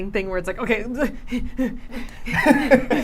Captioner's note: laughing; panting